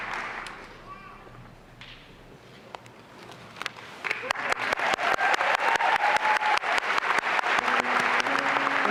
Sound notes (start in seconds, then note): 4.0 applause and cheering